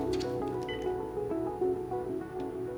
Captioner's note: beeps